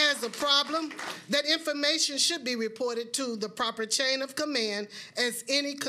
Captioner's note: applause